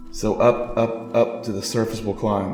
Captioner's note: none